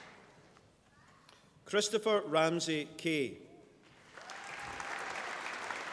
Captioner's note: applause